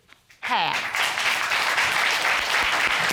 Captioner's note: audience applauding